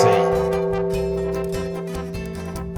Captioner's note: bell dings